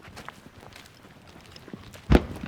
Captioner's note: explosion